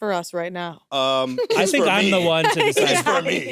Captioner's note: laughs